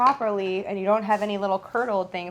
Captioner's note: none